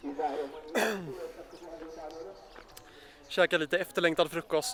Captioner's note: cough